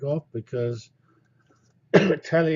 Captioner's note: cough